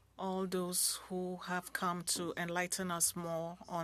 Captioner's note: speaking French